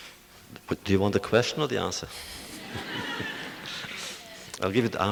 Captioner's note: audience laughter